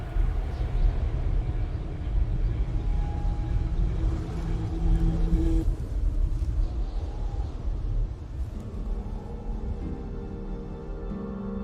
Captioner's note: wind blowing